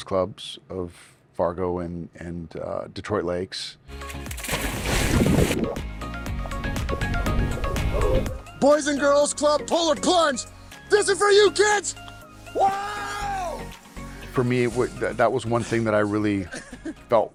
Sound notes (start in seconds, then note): 4.0 water splashing; 6.3 upbeat music; 12.4 yells